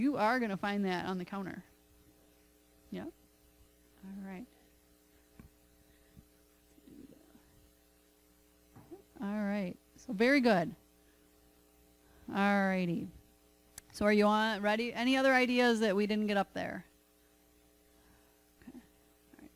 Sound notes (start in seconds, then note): none